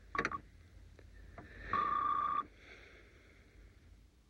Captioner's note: beeping